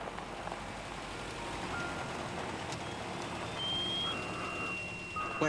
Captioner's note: alarm